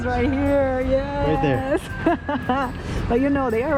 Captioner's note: laughs